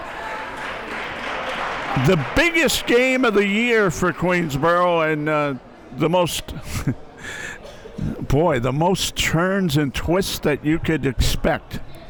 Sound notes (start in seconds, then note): 0.0 people clapping; 6.4 chuckles